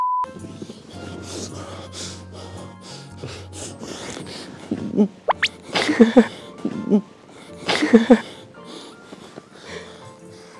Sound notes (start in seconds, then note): 5.1 soft breathing